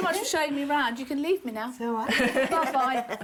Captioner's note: laughter